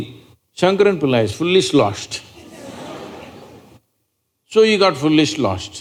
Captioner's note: laughter